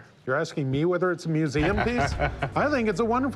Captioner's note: laughs